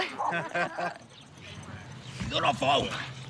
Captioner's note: man laughs